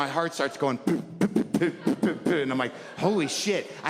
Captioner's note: beat boxing